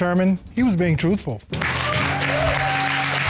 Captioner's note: cheers and applause